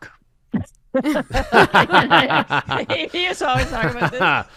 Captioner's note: laughter